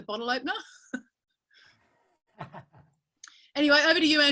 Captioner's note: laughing